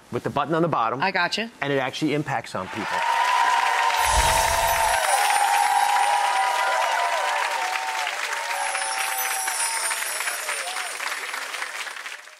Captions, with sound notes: with the button on the bottom. I gotcha. And it actually impacts some people. (applause) (twinkling)